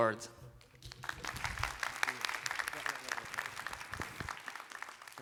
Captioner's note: applause